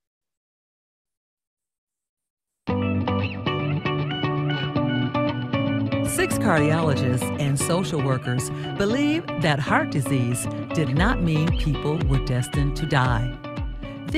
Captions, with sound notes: (upbeat music) - [Voiceover] Six cardiologists and social workers believe that heart disease did not mean people were destined to die.